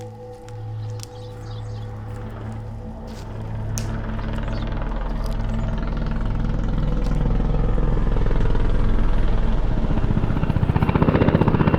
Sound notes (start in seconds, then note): 2.5 dramatic music; 2.8 helicopter chopping